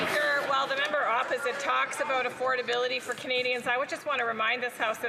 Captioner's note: some Applause